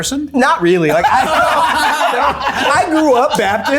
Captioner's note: everyone laughing